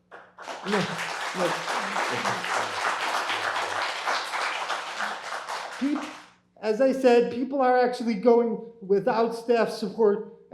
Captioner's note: applause